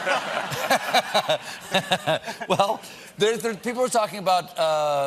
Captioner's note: laughter